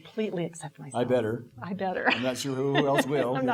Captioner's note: laughing